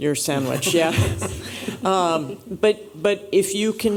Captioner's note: chuckling